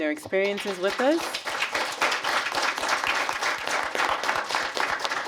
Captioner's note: applause